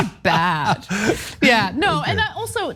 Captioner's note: laugh